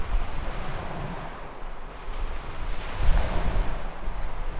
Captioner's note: surf pounding